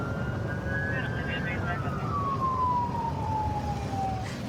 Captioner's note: police sirens blaring; dispatch chatter